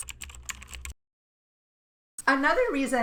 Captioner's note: keystrokes clacking